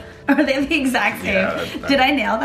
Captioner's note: laughing